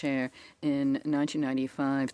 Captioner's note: speaking in French